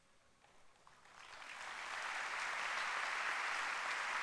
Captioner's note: applause